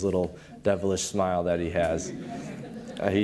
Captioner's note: audience laughing